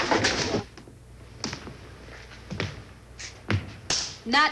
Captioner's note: slow footsteps